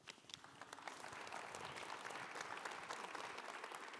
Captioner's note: audience applauds